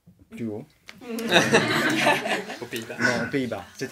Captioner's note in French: rires